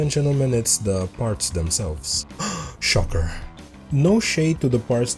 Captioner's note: gasps